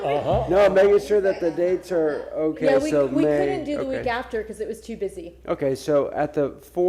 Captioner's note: laughter